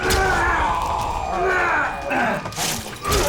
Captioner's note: groans